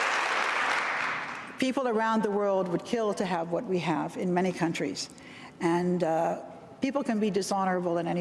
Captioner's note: applause